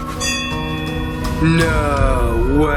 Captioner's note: bell rings